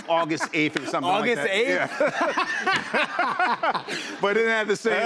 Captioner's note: laughter